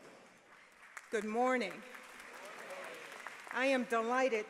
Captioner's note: applause